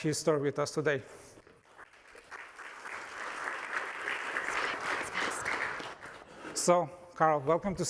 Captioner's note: applause